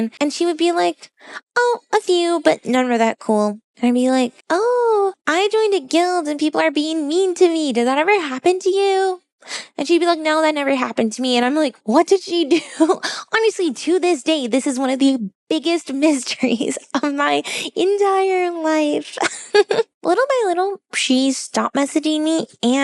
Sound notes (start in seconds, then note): 19.2 laughs